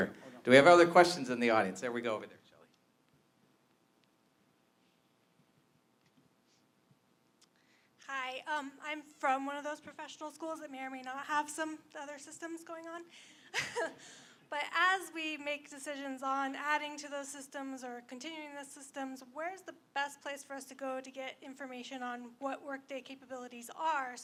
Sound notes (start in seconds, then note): 13.4 laughs